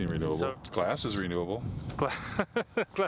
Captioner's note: laughing